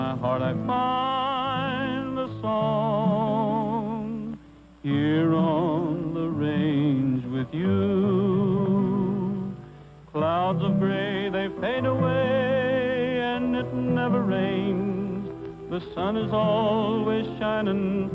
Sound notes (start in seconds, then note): none